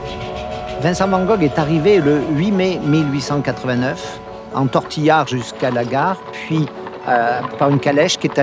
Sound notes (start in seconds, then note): 0.3 train chugging; 1.7 speaking in foreign language continues